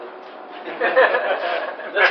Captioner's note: Gülüşmeler